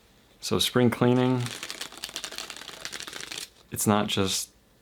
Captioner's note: cards cascading